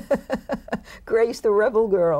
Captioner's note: both laugh